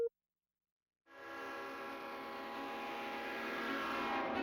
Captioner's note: beeping; train whistle